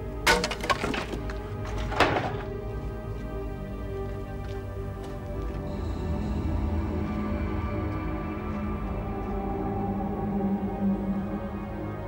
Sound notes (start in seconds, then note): 0.2 wood clattering; 1.7 door clicking